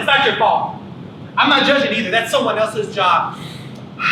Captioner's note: sighs